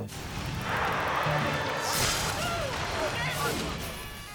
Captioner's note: electricity crackles; people shouting